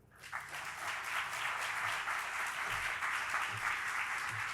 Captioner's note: audience applauding